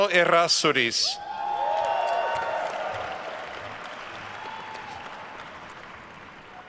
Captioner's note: attendees cheering and applauding